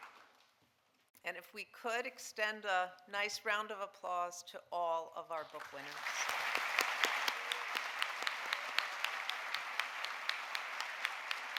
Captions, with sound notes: And if we could extend a nice round of applause to all of our book winners. (audience applauding)